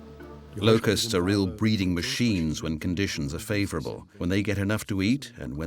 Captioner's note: in German